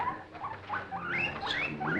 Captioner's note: guinea pig squeaking